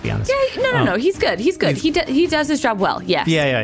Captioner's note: chipper